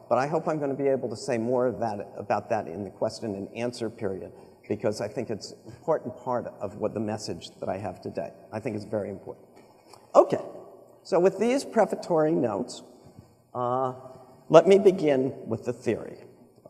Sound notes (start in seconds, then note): none